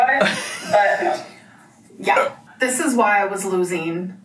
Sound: laughing

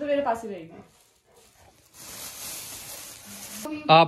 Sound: plastic sound

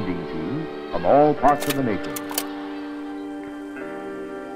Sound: slide clicks

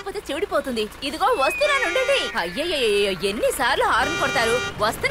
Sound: bus honking

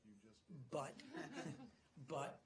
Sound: laughter

